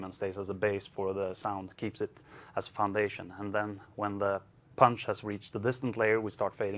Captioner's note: none